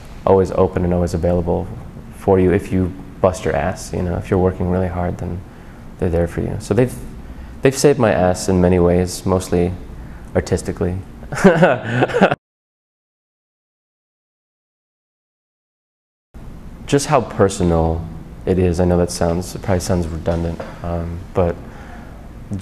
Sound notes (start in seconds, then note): 11.3 laughs